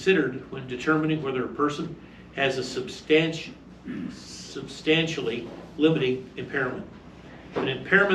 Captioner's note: stammers